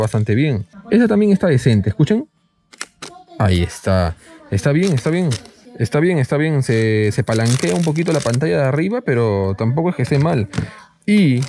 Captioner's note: clicks